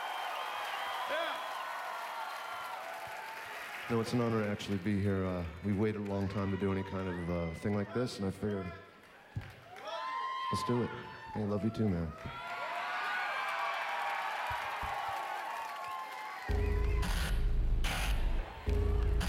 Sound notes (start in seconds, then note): 14.6 cheers and applause